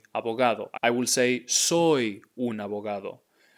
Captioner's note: speaking in Spanish